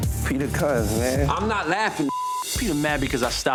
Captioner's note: beep